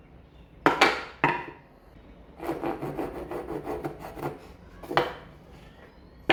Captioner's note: filing sounds